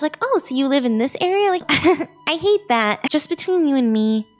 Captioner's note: laughs